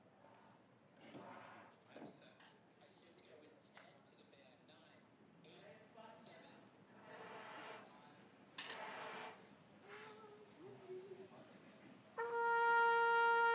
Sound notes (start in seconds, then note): none